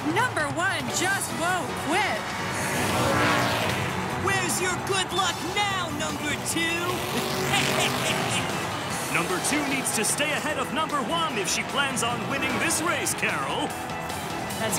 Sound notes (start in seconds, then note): 6.8 laughs